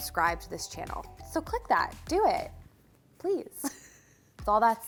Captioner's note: chuckles